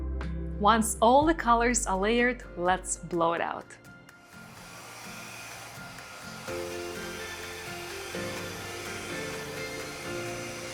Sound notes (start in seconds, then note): 4.3 machine whirring; 6.6 bright music